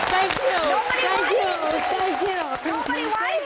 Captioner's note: audience applauding